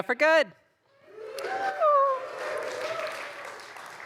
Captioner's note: applause